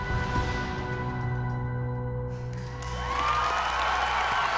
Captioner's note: music fades; cheers and applause